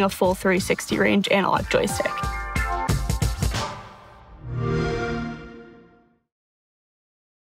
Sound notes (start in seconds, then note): 3.6 Xbox sound